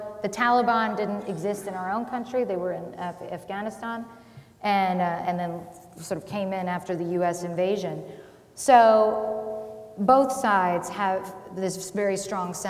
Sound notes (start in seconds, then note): none